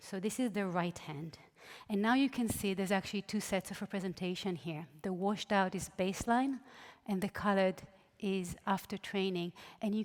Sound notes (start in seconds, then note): none